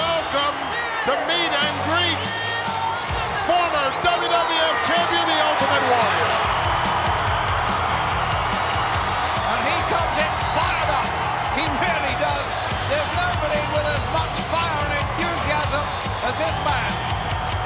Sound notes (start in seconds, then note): 6.7 audience cheering; 6.7 exciting music